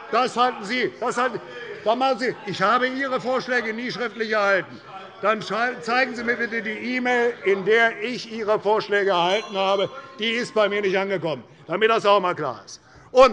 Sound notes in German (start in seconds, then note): 9.0 Anhaltende Unruhe – Glockenzeichen des Präsidenten